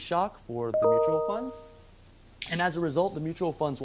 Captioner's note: system notification chime